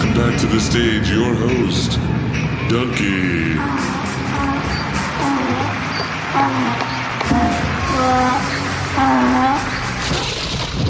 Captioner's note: braying to an instrumental